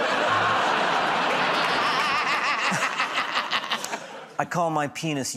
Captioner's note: laughter